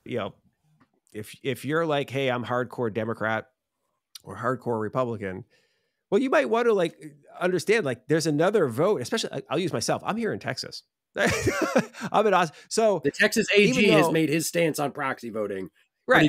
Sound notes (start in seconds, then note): 11.2 laughs